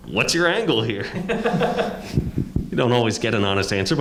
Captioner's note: panelist laughing